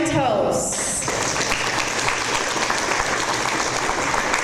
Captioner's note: audience applause